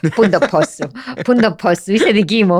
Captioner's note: he laughs